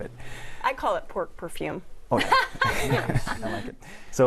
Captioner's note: laughter